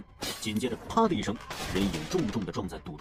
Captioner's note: crack